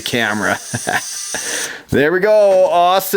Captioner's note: laughs